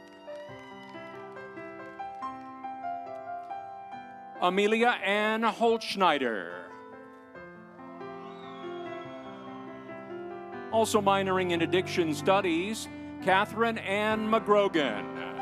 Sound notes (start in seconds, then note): 0.0 audience cheering; 0.0 instrumental music; 7.8 audience cheering; 8.4 instrumental music